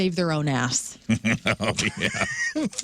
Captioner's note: laughing